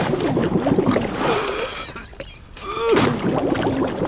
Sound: bubbling; gasp, cough; bubbling

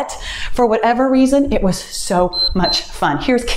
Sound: timer beeps

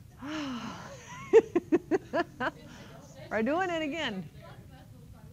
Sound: laughs

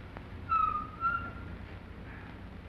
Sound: brakes squeak

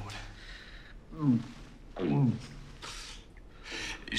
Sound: gags

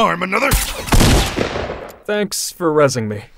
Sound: gun shot

